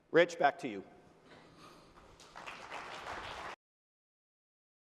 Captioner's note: applause